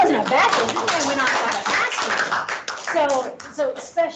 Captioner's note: clapping